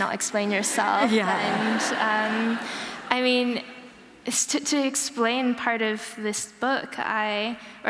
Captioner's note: laughter